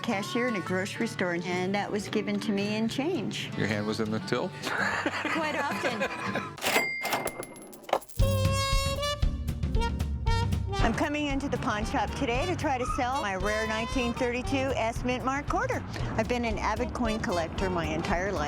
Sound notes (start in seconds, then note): 4.6 laughs